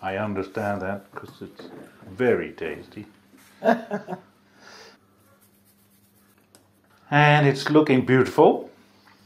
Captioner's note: laughing